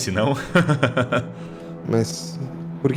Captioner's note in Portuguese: Risada